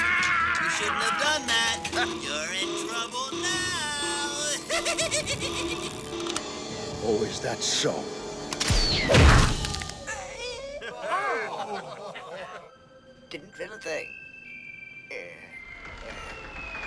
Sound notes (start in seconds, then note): 10.8 laughter; 12.1 squeaky voice